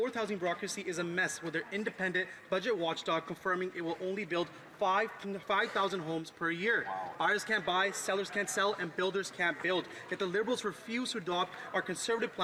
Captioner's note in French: voix de l'interprète